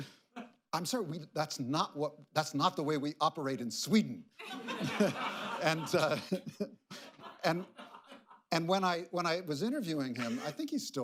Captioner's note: laughter